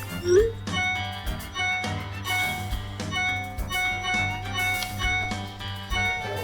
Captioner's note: dramatic music; phone dinging